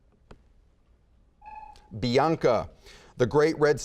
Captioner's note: buzzer beeping